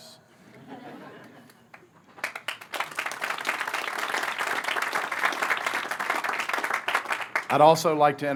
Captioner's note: laughter, applause